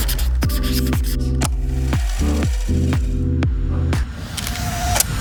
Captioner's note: marker scratching